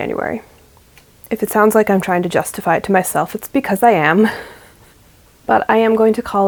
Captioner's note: laughs